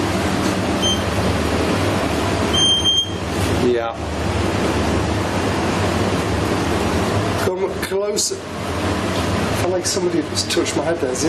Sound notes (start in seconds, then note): 0.9 device beeping